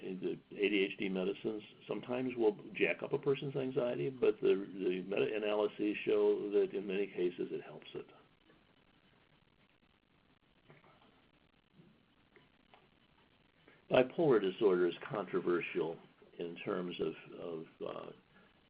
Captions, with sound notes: in the ADHD medicines sometimes will jack up a person's anxiety but the many analysis show that in many cases it helps it. (silence) Bipolar disorder's controversial in terms of kids.